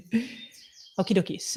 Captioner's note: laughs